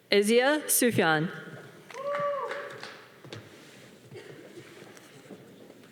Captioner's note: audience cheering